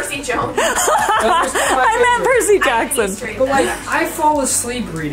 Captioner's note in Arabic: يضحك